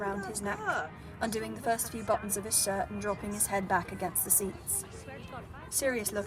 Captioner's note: Mary and Marlene bickering in the background